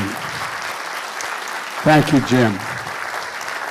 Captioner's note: applause